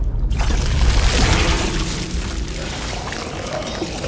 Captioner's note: rumbling, squelching